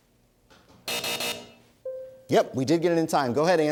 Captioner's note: buzzer